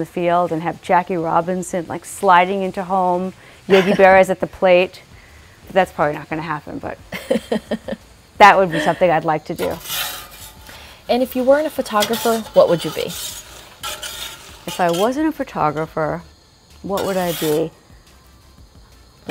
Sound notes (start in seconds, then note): 7.0 laughing in the background